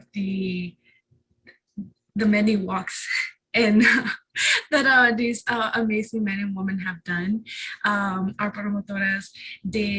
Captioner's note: chuckle